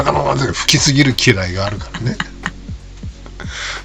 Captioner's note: laughs